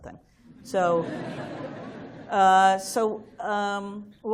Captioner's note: laughter